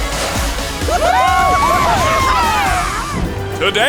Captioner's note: cheering